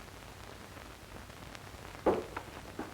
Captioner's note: smack